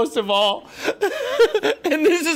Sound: laughter

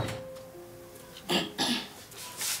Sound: clear throat

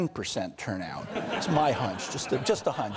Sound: audience laughter

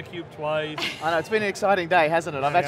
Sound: laughter

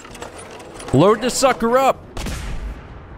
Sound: blam!

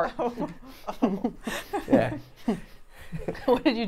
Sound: laughs

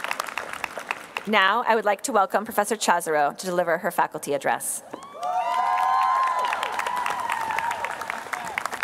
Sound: applause

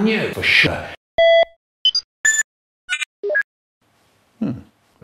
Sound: beeping

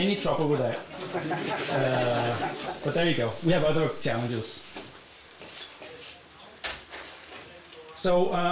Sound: laughter

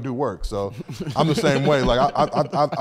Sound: group laughs

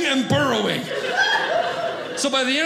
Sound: audience laughing

